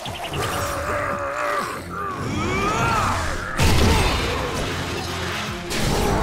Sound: grunting

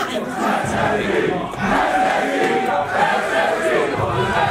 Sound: crowd

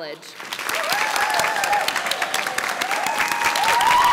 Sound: audience applauds

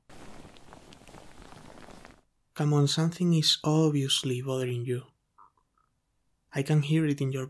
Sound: rustling

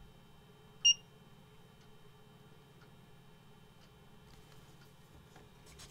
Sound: beep

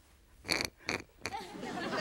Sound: pinky pig snorts; audience laughs

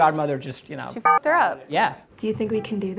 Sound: beeps

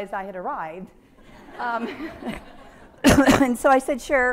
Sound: audience laughing

